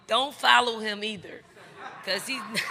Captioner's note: crowd laughing; chuckles